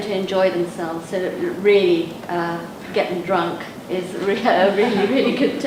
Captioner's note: laughs